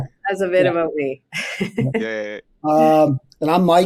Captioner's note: chuckling